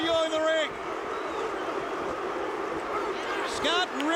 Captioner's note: audience barking